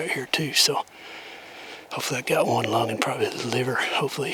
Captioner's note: whispering